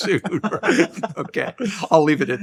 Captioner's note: all laughing